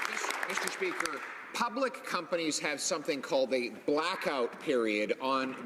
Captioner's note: some Applause